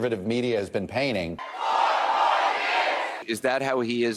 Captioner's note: audience cheers